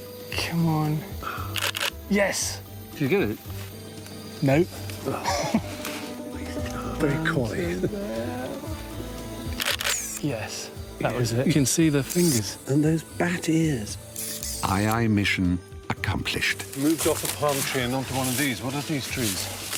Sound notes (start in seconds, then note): 1.4 camera clicks; 9.5 camera click